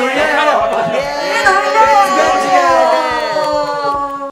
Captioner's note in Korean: 박수!